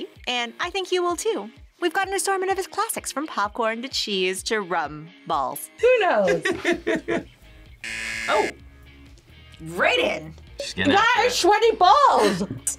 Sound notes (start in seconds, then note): 6.2 laughs; 7.8 buzzer rings